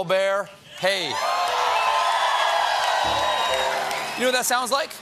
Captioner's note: cheers and applause